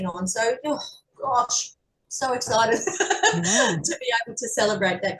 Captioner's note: is laughing